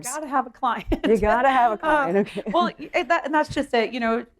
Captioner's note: laughter